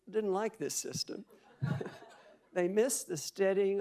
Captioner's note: audience laughing